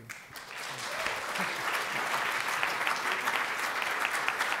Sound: audience applauding

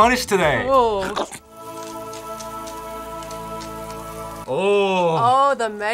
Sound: grill sizzling

